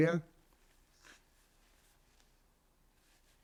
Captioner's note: pauses 8 seconds